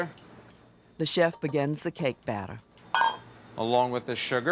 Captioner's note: voiceover